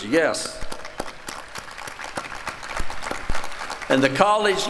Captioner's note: applause